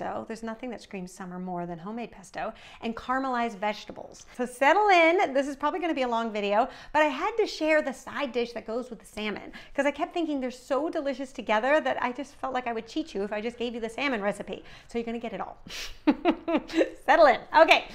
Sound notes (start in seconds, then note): 16.0 laughing